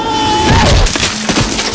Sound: grunting

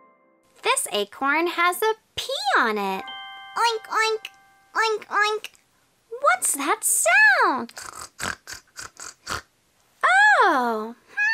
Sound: oinking

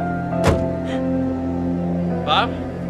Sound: sobbing

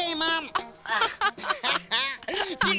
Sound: both laughing

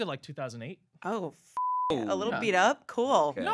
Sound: beep

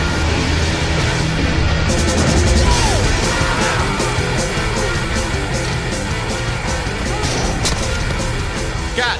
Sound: screams

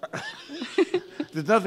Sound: laughing

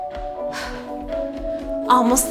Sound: breathes

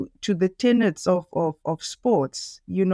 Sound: none

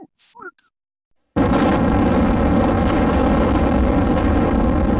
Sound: explosion

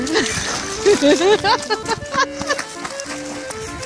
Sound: ROLLING laughter

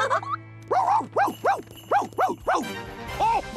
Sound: laughing; barking

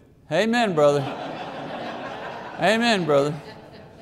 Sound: congregation laughing

